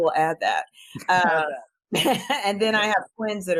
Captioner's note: laughs